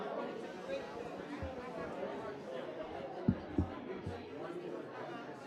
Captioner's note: people conversing in background